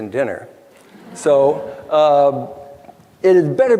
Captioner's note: crowd laughter